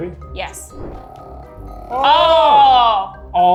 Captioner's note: nail polish vibrating